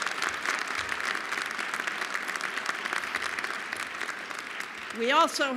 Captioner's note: applause